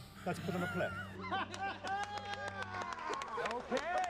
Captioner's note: clapping, laughter